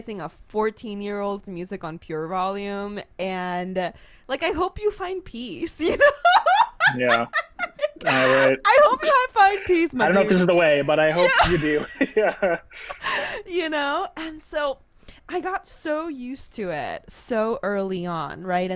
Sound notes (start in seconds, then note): 6.5 laughs; 12.0 laughs